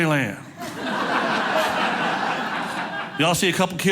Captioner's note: audience laughing